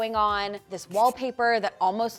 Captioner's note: marker skritching